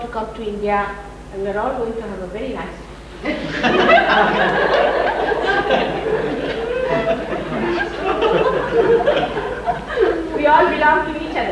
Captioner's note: laughter